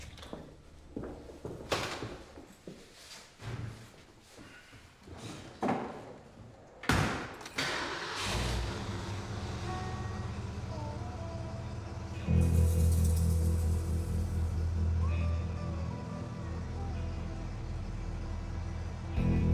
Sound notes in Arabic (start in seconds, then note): 7.1 يغلق باب السيارة; 7.5 يبدأ المحرك